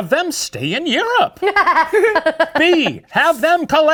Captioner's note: laugh